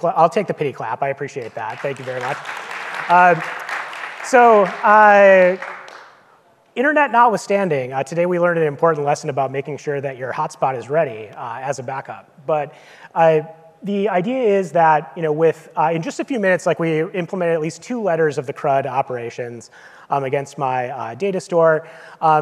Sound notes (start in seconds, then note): 3.5 audience clapping